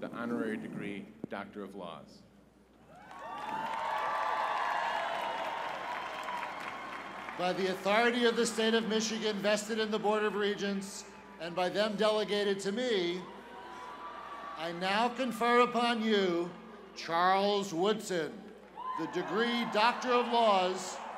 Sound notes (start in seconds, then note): 2.8 cheers and applause